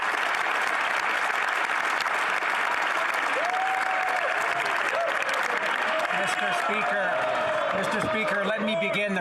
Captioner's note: some Applause